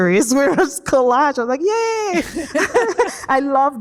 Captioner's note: both laugh